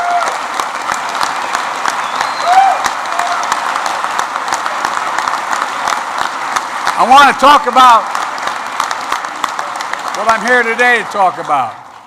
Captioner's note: applause